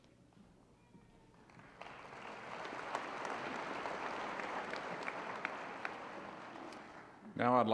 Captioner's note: applause